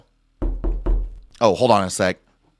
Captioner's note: knocking